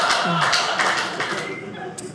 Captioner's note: audience laughing